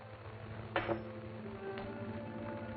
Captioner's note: coin clanging